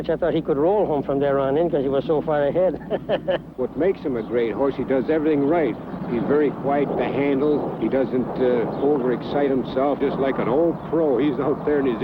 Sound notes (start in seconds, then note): 2.7 laughs